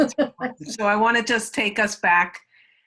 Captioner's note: laughs